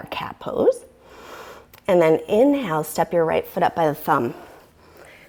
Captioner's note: deep breathing sounds